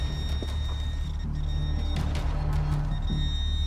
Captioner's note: detector beeping